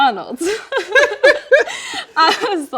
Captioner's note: both laughing